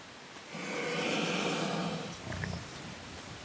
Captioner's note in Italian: ruggito